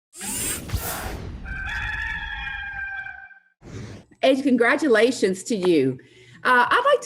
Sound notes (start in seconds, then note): 0.2 robotic squeaking; 1.4 cock crows; 3.5 air blows